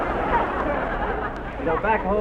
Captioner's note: audience laughs